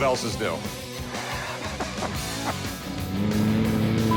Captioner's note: laughs